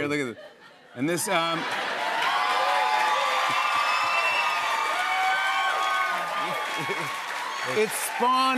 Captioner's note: cheers and applause